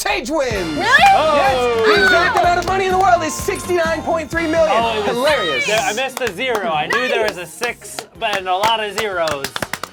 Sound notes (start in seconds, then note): 0.8 loud yelling; 8.8 loud cheering